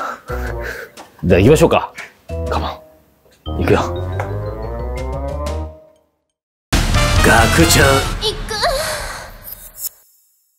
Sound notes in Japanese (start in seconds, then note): 8.4 嬌声 効果音